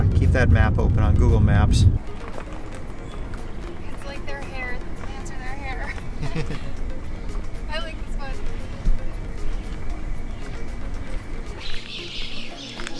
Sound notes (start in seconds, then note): 5.8 laughs